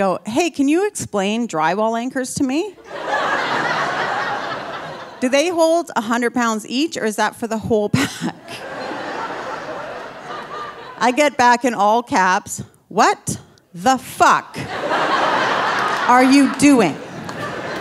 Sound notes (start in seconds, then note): 2.8 audience laughing; 8.0 audience laughing; 8.2 laughing